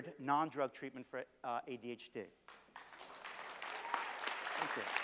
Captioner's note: applause